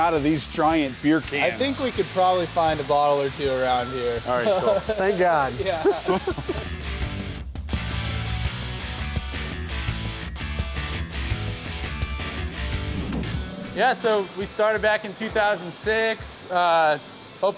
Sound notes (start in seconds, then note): 6.1 laughs; 7.3 rock music